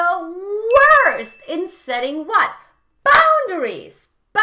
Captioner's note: bell chimes